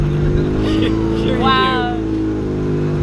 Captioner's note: chuckling